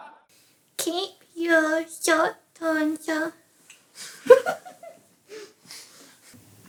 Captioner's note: laughs